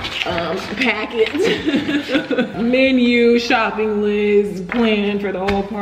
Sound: laughs

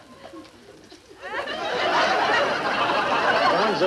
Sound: audience laughing

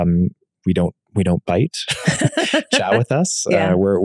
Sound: both laughing amusingly

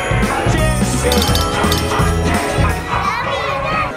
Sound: clinking

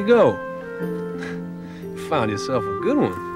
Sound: chuckles

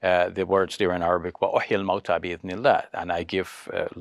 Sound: speaks foreign language

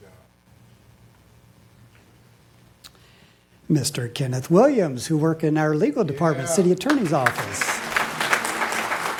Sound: applause

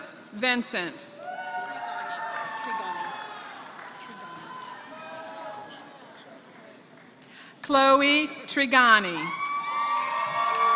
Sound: applause; applause

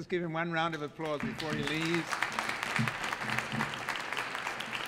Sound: audience applauds

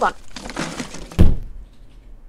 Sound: thud

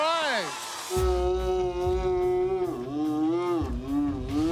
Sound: roaring

